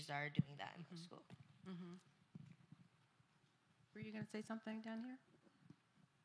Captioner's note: none